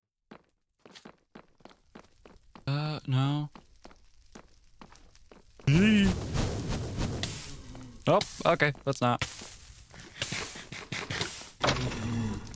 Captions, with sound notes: Uh, no. (panic sound) That's not.